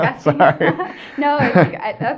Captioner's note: laughing